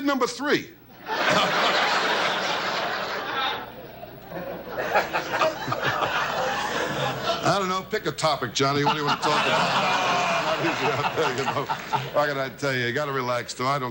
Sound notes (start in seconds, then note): 1.0 audience laughs; 5.3 laughs